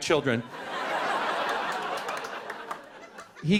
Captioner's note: laughter